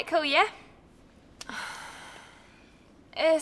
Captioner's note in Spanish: May suspira